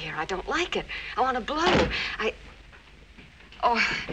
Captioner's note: door closes